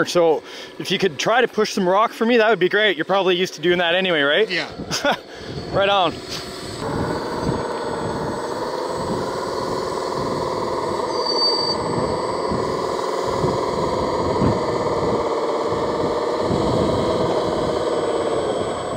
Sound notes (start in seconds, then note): 6.9 machine engines rumble